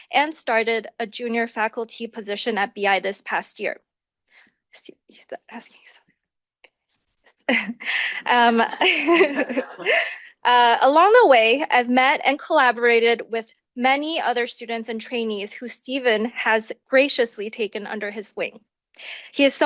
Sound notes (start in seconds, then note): 7.5 chuckles